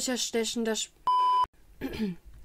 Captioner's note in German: Piep-Ton